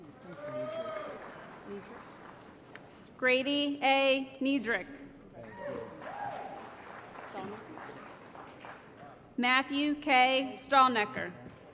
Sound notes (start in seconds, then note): 0.1 applause; 5.4 applause & Cheering